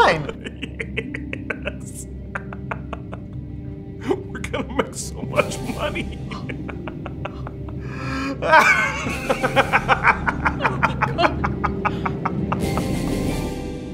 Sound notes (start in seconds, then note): 0.0 laughing; 2.0 evil laughing; 6.2 evil laughing